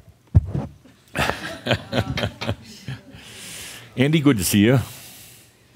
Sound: chuckling as is surprised with the mic

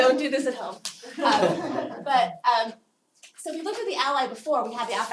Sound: laugh

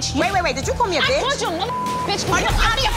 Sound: beep

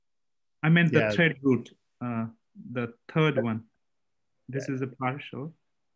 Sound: calm Voice

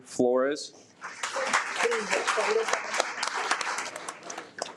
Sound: audience applauds

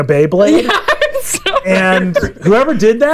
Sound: laughs

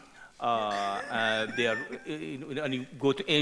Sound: host laughing

